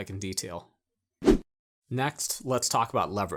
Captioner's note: air whooshing